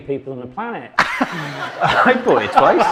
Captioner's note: audience laughing; guests laughing